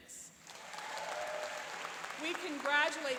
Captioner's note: applauding and cheering